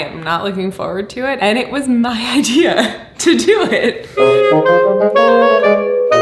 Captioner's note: laughs